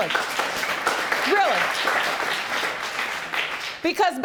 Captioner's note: audience applauding